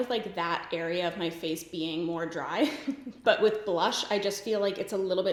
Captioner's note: giggles